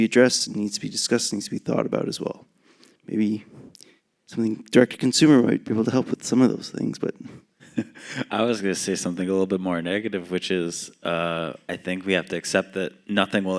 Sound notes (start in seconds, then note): 7.6 chuckles